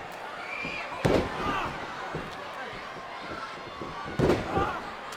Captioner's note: body thuds